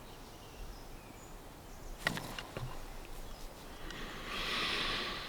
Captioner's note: birds chirping over wind